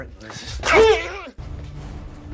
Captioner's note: Max groaning; sinister music